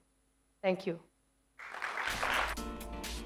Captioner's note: applause